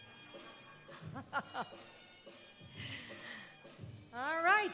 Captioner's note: laughing